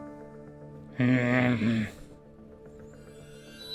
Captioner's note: grumbles